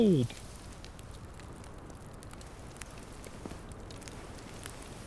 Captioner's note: fire crackling